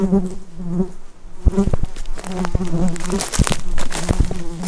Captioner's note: buzzing mosquito